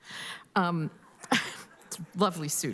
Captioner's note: laughter